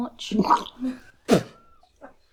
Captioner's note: gagging